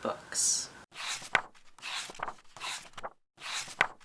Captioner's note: pages turning